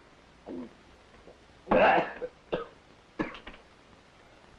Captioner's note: Hodges coughs